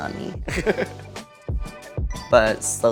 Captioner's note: chuckles